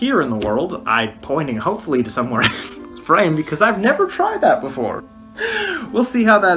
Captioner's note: laughs